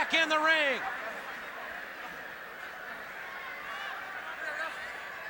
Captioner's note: audience chattering